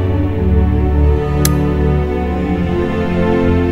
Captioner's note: Button clicks